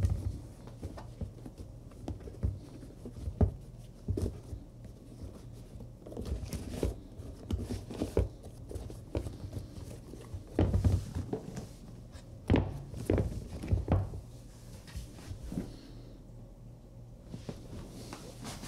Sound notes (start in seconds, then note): 12.4 shoes thump